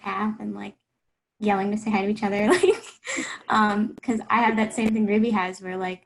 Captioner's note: laughs